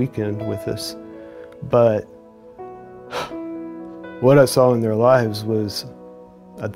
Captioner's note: sighs